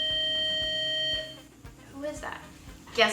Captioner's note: door bell rings